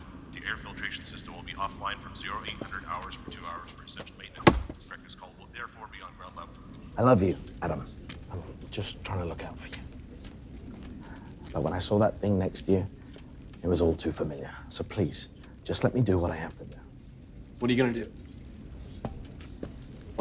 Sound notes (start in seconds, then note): 4.4 knife clanks